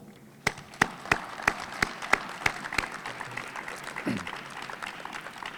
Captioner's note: and audience applauding